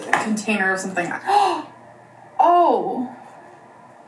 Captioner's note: gasps